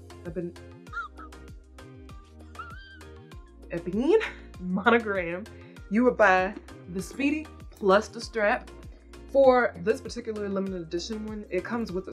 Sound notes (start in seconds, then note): 0.1 stammering; 0.9 man wheezing